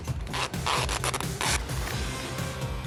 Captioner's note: tape pulling